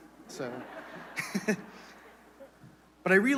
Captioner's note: laughter